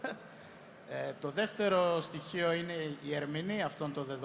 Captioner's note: laughs